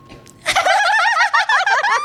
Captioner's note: laugh